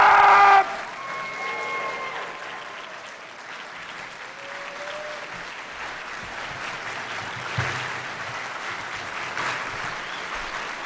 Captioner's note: applause and Cheering